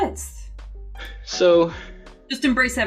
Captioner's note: sighs